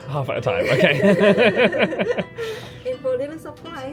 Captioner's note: both laugh